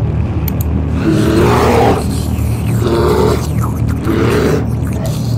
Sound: bear groans

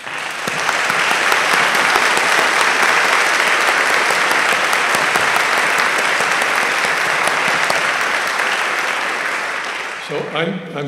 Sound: applause

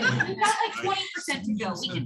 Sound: laughter

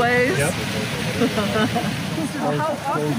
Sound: laughs

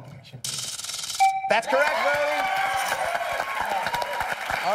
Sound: chime

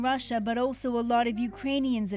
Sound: speaking Foreign Language

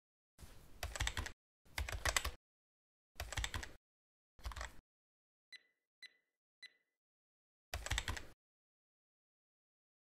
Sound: typewriter clicking sound

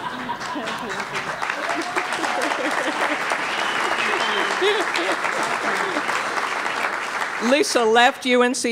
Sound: laughter; applause

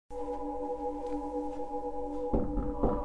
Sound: space humming; door knocking

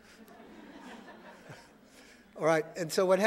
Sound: audience laughing

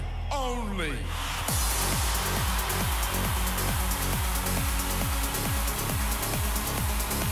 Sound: cheering

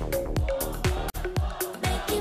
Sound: fanchant

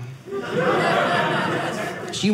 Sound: audience laughing

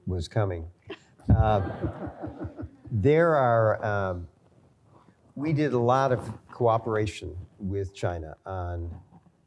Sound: laughter

